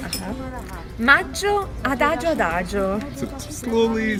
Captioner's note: speaks in foreign language